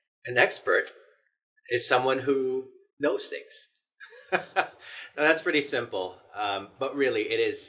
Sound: laugh

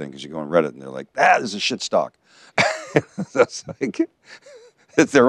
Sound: laughs

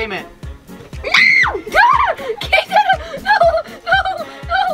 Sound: screaming; laughing

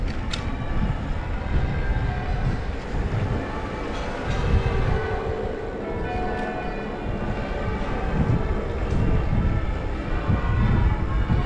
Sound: church bells ringing again 🎶

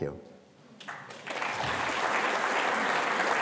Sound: applause

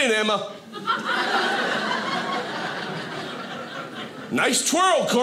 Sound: audience laughing

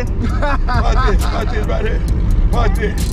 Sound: laughs

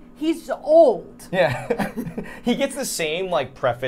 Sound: both laughing

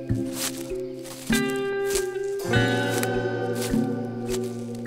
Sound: leaves crunching

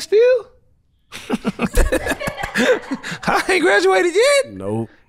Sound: laugh

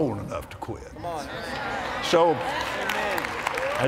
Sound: agreement & Applause

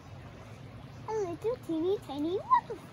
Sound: water flowing

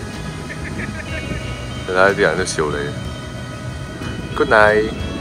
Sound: distant laughers

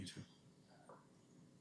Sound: whispering

